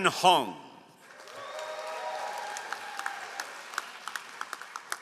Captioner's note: all applauding